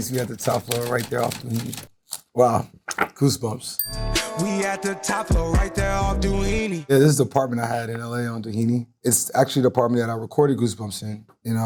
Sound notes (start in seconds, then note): 3.8 bell dings